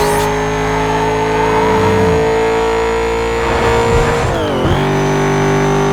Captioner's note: supercharger whining, engine roaring